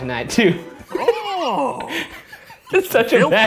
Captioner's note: laughing